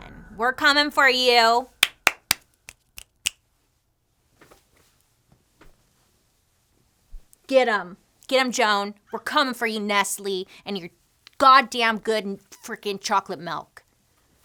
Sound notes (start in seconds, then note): 1.8 claps; 2.6 snaps